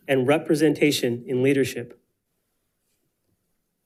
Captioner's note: none